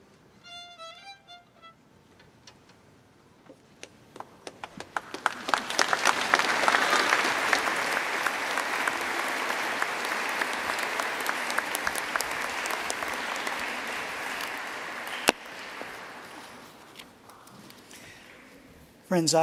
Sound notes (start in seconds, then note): 4.1 applause